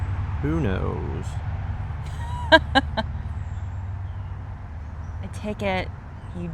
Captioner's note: laughter